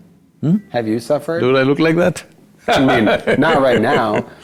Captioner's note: laughs